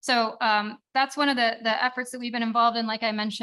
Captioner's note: none